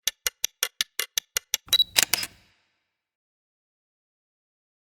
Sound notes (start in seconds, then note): 1.7 clock ticking